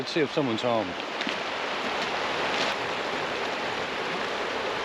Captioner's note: water flowing